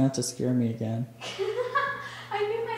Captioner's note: laughter